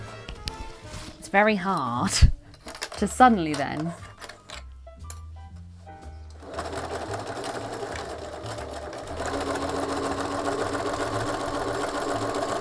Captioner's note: sewing